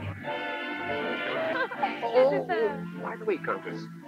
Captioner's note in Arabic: تضحك الكونتيسة